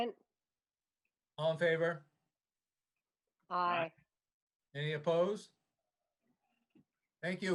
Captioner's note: silence